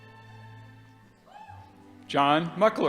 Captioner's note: audience member hoots